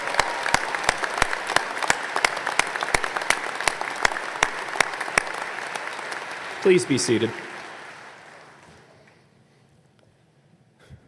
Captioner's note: applause